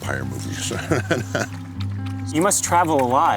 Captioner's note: laughs